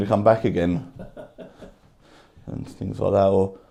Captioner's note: man chuckling